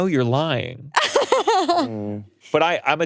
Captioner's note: laughing